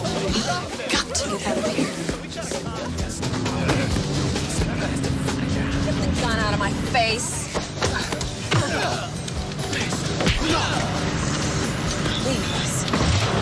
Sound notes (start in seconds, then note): 7.8 both sighing